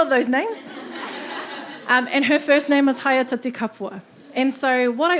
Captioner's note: audience laughing